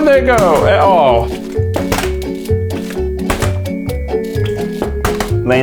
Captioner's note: plastic bottle flap